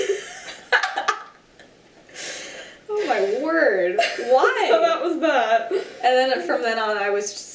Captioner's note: laughs